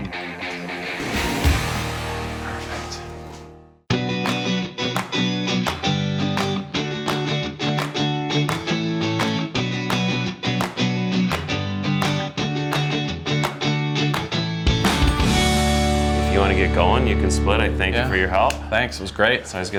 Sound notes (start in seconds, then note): 1.8 whispers; 3.9 upbeat music